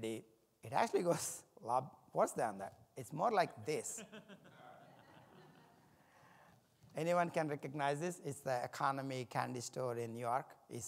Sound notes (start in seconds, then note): 3.8 audience laughs